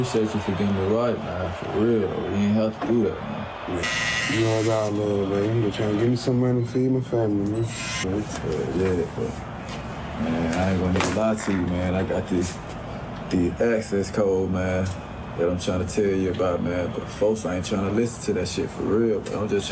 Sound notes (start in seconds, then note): 3.8 clippers blaring